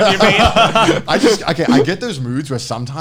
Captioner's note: laughing